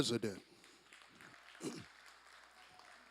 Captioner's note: applause